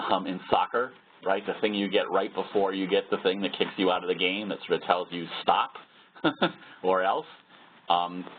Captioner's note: laugh